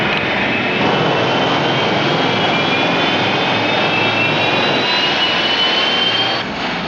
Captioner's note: motores gemem